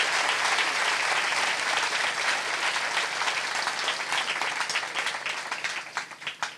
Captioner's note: applause